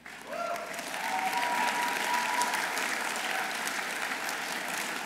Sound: audience applauding

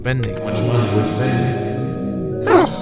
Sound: echo

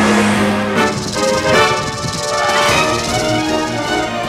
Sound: rattling

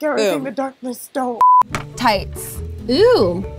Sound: beeps

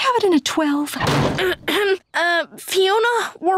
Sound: clearing throat

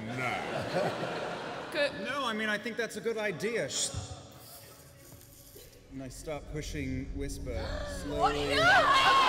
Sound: sizzling

